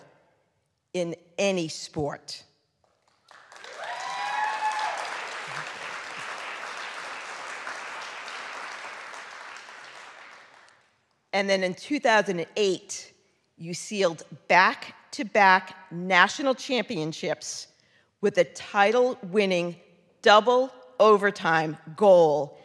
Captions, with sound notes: three title in any sport. (audience cheering) (audience clapping) And then in 2008, you sealed back to back national championships with a title winning double overtime goal